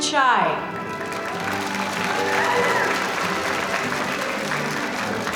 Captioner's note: audience applauding